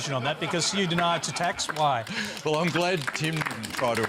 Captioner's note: laughter